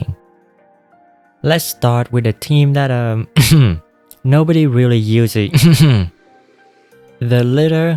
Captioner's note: cough